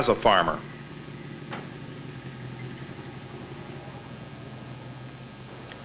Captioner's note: engine humming